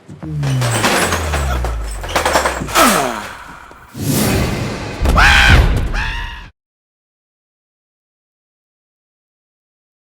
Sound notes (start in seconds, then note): 5.1 loud terrified scream